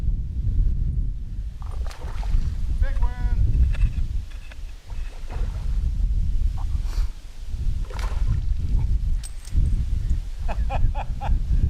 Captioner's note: splash